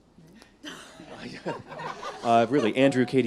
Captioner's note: all laughing